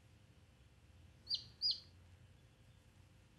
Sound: chirps

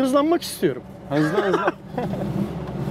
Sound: laughings

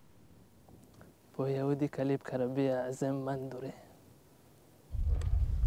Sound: Turkish

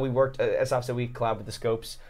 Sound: none

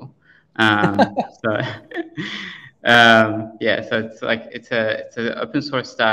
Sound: laughter

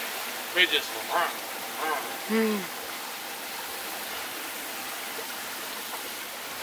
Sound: mimics fast whirring

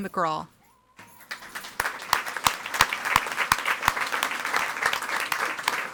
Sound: audience applauding

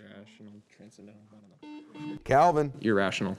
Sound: buzzer beeping

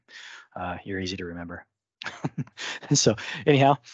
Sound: laughs

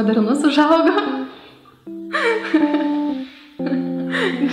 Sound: laughing

